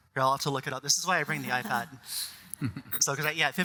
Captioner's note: all laughing